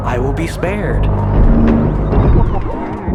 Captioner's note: metallic groaning